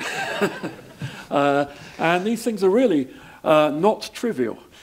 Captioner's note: laugh